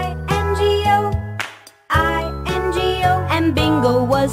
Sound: clap

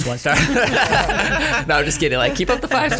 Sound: laughter

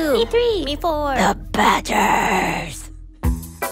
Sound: in a raspy voice

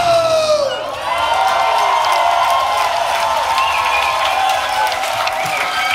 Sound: cheering

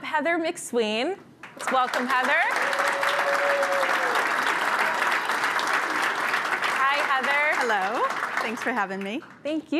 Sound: applause

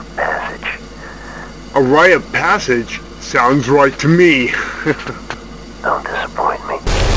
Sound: chuckles

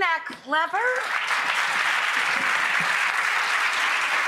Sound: applause

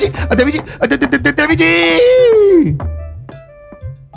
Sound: stutters

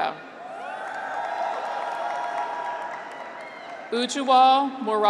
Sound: graduates cheer; audience applauds

